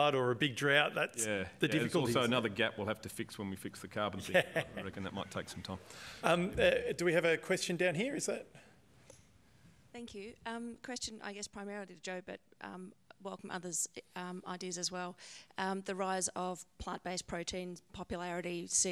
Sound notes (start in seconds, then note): 4.2 laughter